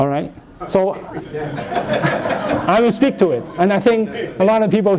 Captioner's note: laughter